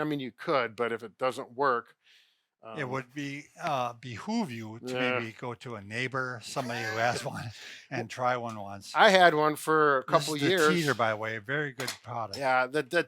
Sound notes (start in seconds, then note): 6.5 chuckles